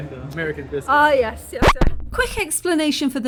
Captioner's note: record scratch